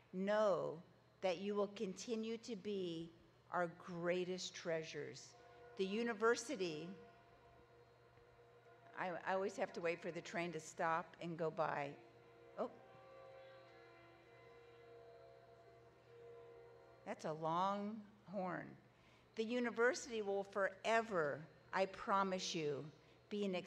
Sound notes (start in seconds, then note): 8.0 train hoots; 12.7 train hooting